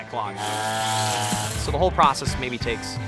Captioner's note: trimmer buzzing